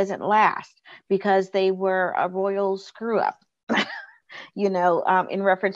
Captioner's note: chuckles